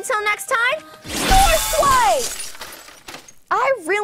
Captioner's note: sword slicing and crashing